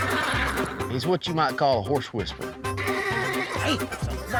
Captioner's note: both laughing